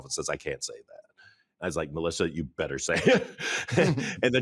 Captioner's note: chuckles